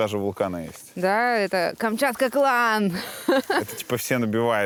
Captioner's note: laughs